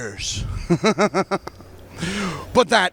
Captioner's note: giggles